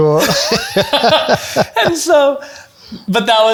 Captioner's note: chuckles